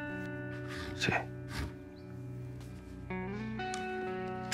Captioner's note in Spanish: susurra